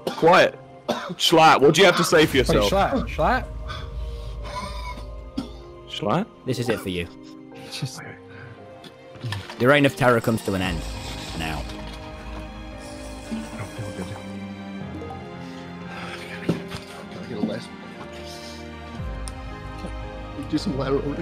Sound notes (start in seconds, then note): 4.4 coughs; 12.9 drinking noises; 17.5 sobbing